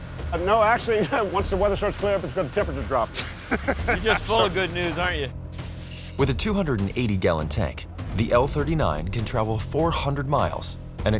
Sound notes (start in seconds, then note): 3.1 laughing